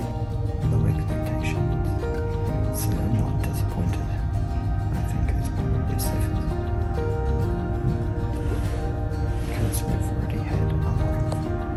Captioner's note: hushed tone